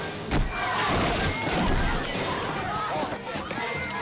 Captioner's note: men thuds; customers chants